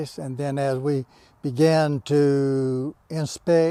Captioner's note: none